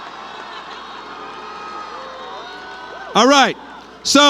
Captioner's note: cheering